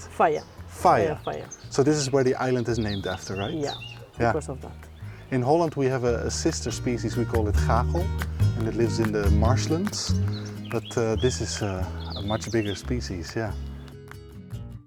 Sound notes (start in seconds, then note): 7.5 gale